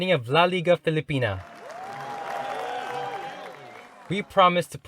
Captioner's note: crowd clapping and cheering